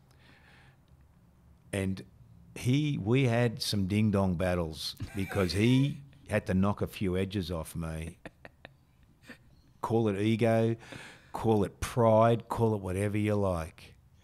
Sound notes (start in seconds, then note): 5.0 chuckling